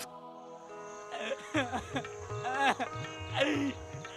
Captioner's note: sobbing, crying